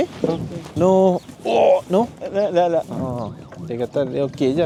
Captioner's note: speaking Arabic